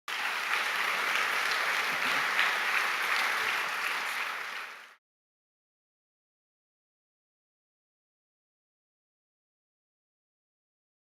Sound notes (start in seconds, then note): 0.0 clapping